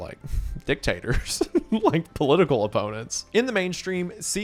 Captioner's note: laughs